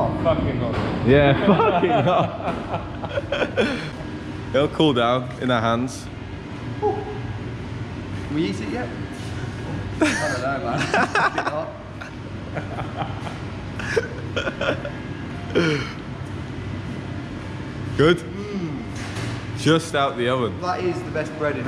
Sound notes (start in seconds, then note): 1.3 laughing